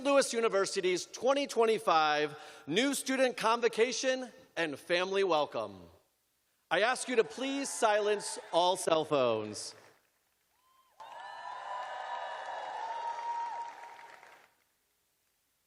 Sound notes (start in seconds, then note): 7.9 cheers and applause